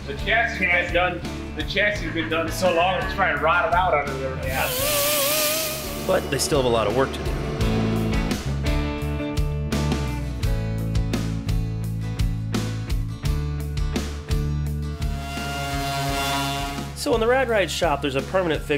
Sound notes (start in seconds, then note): 4.6 machine whirs; 7.6 bright music; 15.0 machine whirs